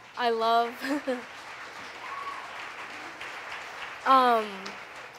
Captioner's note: audience applauding